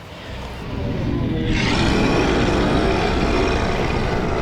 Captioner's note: creature roaring